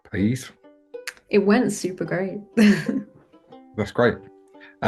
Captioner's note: chuckles